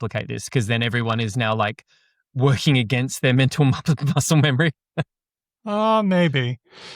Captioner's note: laughs